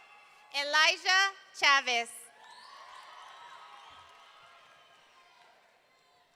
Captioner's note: audience cheering; audience cheering